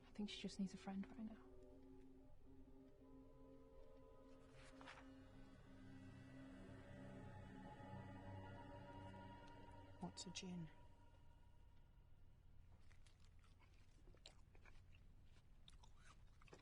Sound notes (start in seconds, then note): 6.1 ominous music builds; 12.7 loud chewing